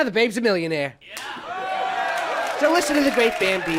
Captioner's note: people cheering